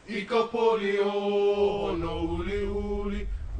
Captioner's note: chant